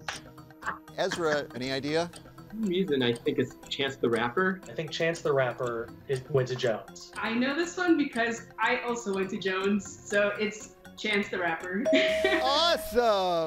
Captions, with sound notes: - Ezra, any idea? - For some reason I think it's Chance the Rapper. - I think Chance the Rapper went to Jones. - I know this one because I also went to Jones, so it's Chance the Rapper. (bell dinging) (laughing) - Awesome.